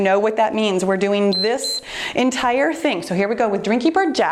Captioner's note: timer beeps